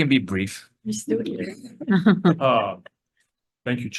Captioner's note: laughs